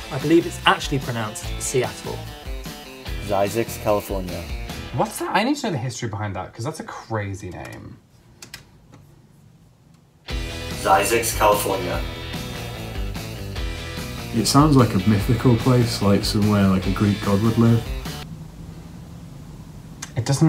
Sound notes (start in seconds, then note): 8.3 typing; 8.3 upbeat music